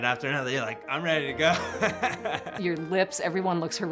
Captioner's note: laughs